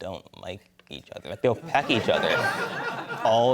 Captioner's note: laughter